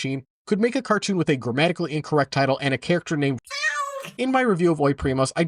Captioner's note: cat sfx